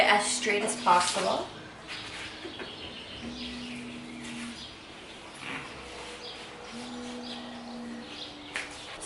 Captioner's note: construction sounds